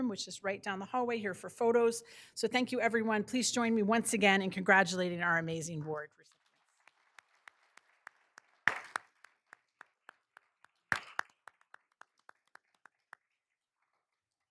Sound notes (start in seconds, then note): 6.3 all applauding